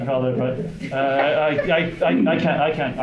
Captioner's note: crowd laughing